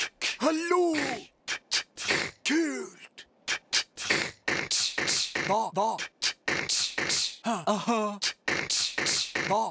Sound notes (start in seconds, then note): 0.7 beatboxing